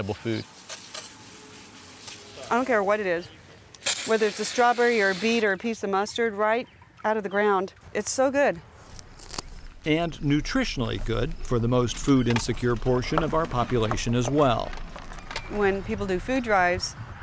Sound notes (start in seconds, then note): 0.3 water being sprayed on vegetables; 8.8 crunching